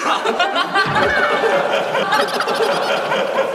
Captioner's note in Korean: 푸흡